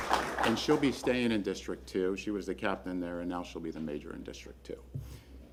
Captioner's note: applause